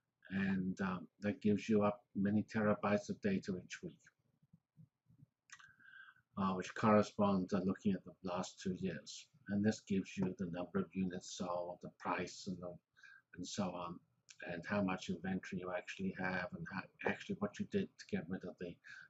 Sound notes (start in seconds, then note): 4.1 pause